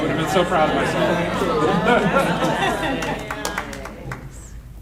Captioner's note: audience laughing